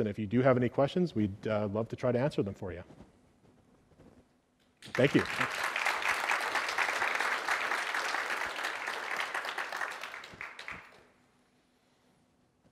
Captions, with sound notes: And if you do have any questions, we'd love to try to answer them for you. Thank you. [APPLAUSE]